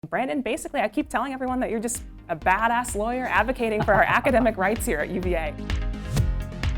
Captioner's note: laughs